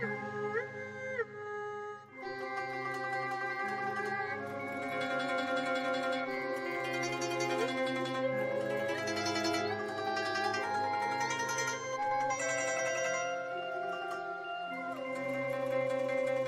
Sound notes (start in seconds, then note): none